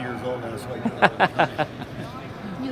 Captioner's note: chuckles